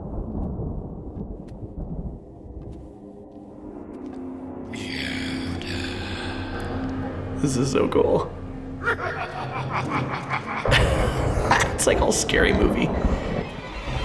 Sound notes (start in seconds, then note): 0.1 quiet ominous music; 8.8 menacing laughter; 8.8 laughs; 13.8 dramatic ominous music